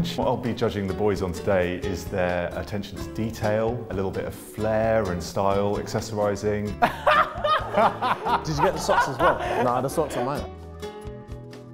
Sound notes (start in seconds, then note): 6.8 laughing